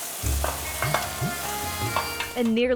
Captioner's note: pan sizzling